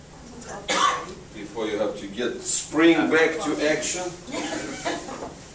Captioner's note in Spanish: risas